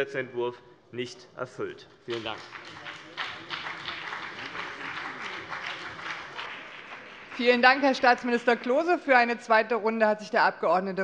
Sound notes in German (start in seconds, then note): 2.1 Beifall CDU und BÜNDNIS 90/DIE GRÜNEN